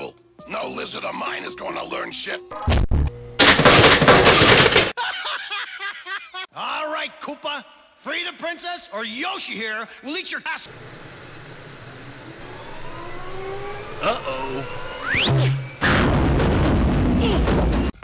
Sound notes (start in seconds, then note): 3.4 toasters springing; 3.4 thud; 4.9 laughing hysterically; 11.4 pipe whirring